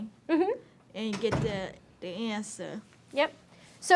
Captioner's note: door thudding